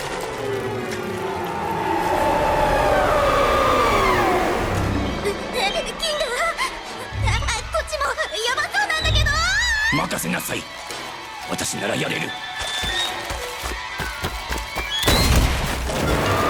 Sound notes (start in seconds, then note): 1.6 shrieking; 5.4 laughs nervously